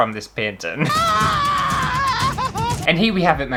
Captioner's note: screaming!